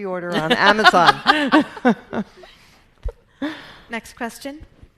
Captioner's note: laughing